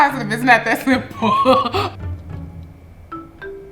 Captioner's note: laughs